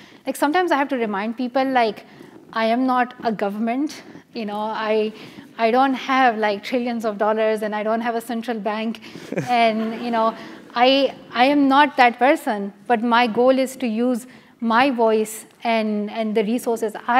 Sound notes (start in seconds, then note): 9.2 laugh